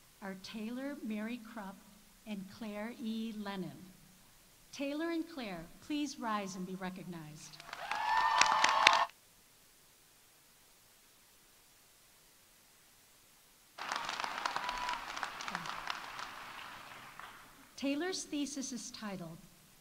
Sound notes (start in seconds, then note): 7.6 audience applauding; 7.6 audience cheering